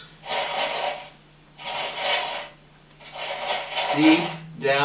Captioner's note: clanking noise